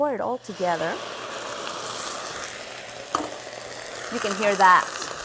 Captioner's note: sizzling